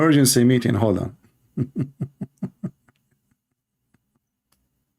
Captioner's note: Ketawa